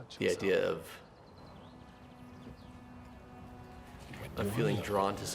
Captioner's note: birds chirping; dramatic music